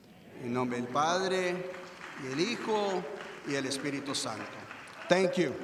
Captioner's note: speaks in foreign language